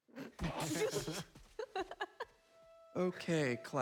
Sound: students laughing

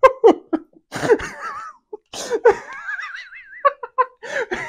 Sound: just laughs

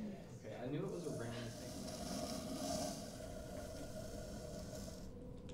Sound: cup scratching across table

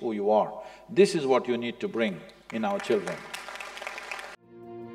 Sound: applause

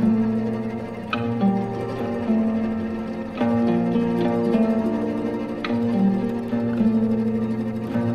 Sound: pd blower

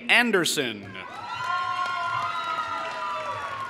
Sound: applause

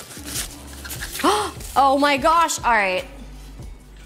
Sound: gasps

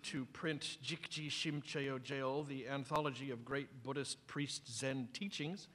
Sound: non-english speech

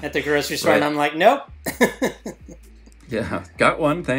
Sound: laughs

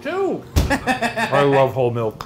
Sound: Ryan laughs

